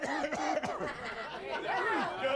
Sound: coughing

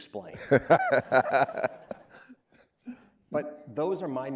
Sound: laughing

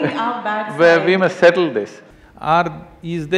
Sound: laughs

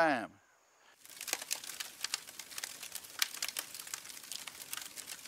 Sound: fire crackling

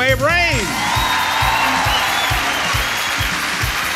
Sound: audience cheers

